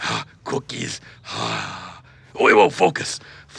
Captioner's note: sighs